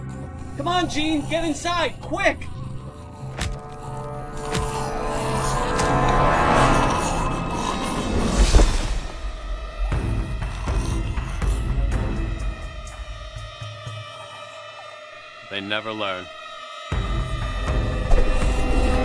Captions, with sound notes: - Come on, Jean. Get inside. Quick! (dramatic music) (zombie growling) - They never learn.